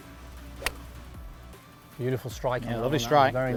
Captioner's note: golf club hitting ball